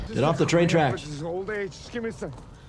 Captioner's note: footsteps tapping